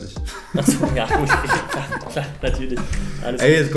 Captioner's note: both laughing